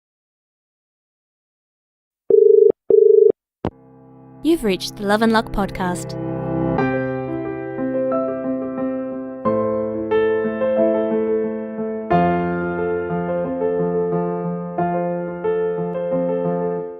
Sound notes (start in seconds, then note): 2.3 dial tone